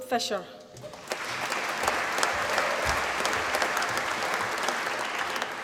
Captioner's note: applause